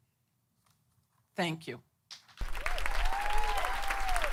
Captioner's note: applause